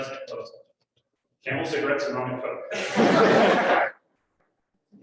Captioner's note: laughter